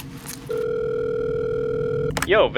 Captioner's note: phone ringing